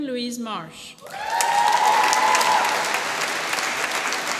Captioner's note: applause